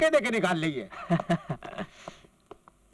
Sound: laughs

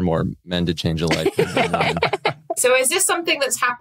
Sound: others laughing

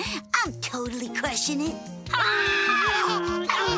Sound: alien kids shriek happily

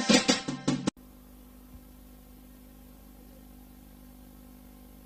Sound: VHS static

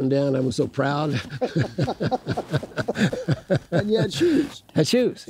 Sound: laughing

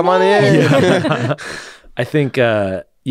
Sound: laughing

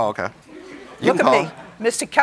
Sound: laughter

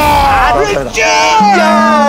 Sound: exclaiming

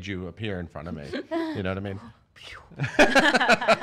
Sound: laughing

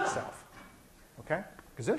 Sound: student sneezes

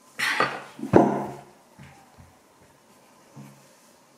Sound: thump

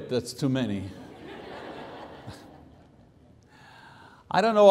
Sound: congregation laughs

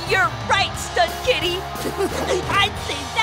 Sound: laughing

